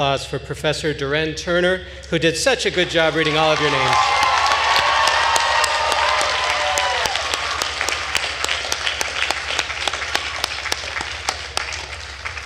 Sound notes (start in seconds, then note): 4.2 attendees cheering and applauding